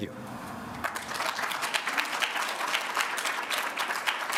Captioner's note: applause